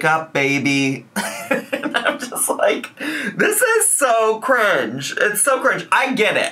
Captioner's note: laughs